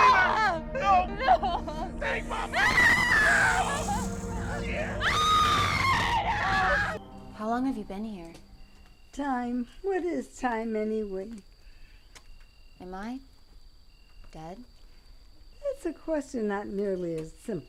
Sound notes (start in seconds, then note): 3.8 people screaming